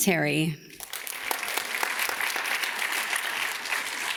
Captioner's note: audience claps